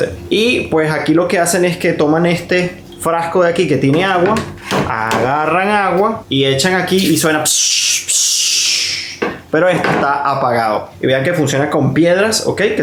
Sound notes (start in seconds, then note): 7.5 steam sound